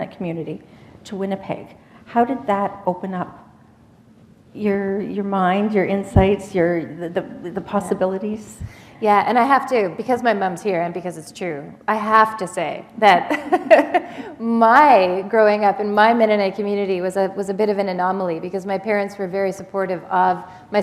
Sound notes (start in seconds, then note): 13.5 chuckle